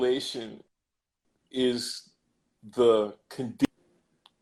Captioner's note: glitch